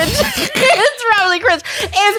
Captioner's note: both laughing